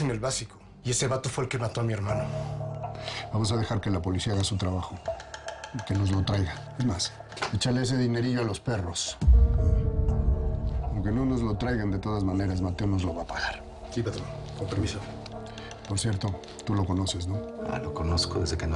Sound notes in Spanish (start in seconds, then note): none